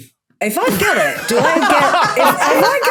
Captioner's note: others laugh uproariously